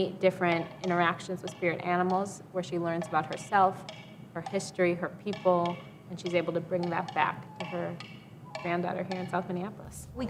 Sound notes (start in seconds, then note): none